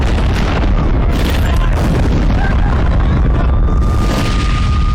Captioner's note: siren wails